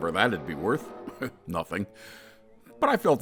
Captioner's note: chuckles